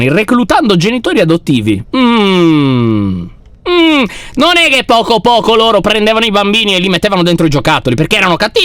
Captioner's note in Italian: tono scettico